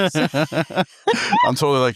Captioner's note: both laughing